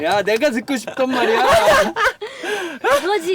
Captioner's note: laughter